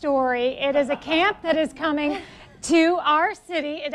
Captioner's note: laughs